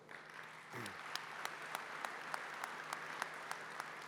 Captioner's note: applause